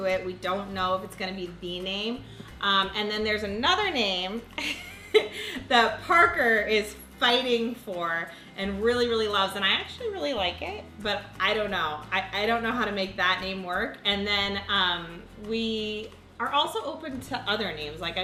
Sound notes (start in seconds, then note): 4.9 laughs